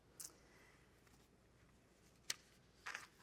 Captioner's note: none